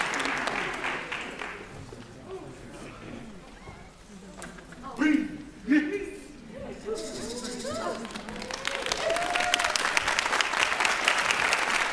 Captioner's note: applause